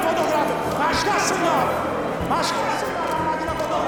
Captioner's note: crowd protests